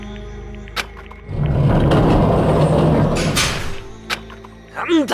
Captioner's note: rumble...!